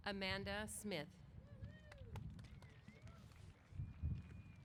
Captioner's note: applause